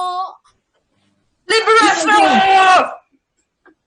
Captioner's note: shouting